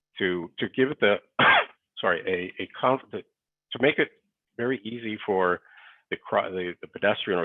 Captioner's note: coughs